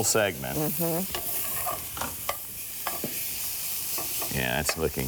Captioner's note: sizzling